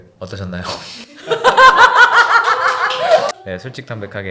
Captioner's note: applause